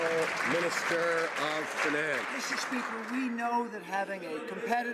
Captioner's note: some Applause